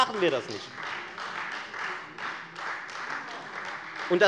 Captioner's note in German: Beifall Freie Demokraten